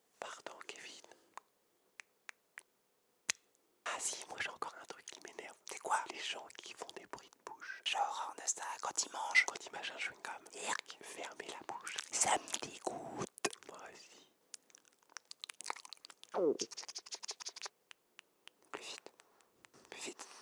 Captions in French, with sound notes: Pardon Kévin... Ah si ! Moi j'ai encore un truc qui m'énerve. C'est quoi ? - Les gens qui font des... J'ai horreur de ça. quand ils mangent... Quand ils mâchent un chewing-gum... - Eurk... Fermez la bouche. - Ça m'dégoute. Moi aussi... (bruits de bouches) Plus vite. Plus vite !